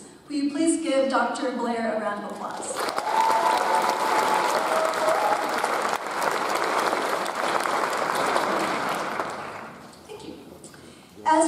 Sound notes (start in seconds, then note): 2.7 audience applauds; 2.8 audience cheers